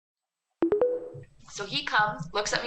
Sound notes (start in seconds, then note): 0.6 tones